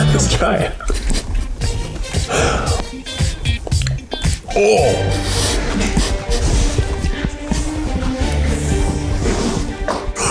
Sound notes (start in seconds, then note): 0.0 funky intro music; 0.8 laughing; 4.4 groans; 7.6 dramatic music; 9.9 gasps for air